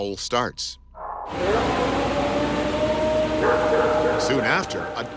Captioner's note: recording howling